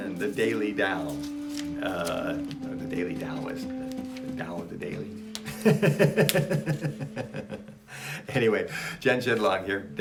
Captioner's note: laughs